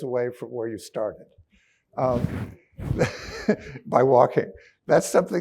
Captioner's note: chuckles